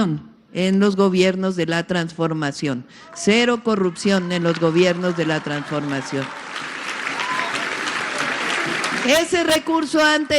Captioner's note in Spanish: aplausos